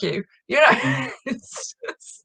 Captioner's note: chuckling